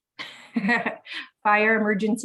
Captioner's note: woman laughs